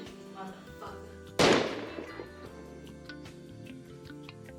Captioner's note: gunshot